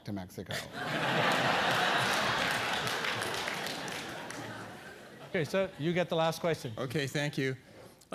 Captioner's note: laugh